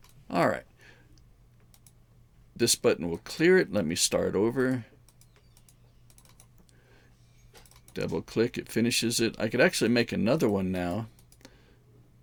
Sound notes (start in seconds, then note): 5.0 mouse clicking